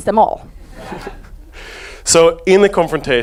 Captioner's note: audience laughs